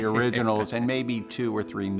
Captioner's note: laughing